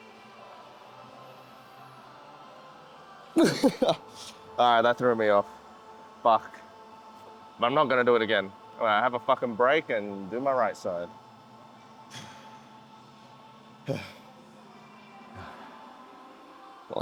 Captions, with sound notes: All right, that threw me off. Fuck. But I'm not gonna do it again. I have a fucking break and do my right side. (grunting)